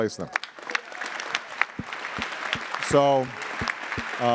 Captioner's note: attendees applauding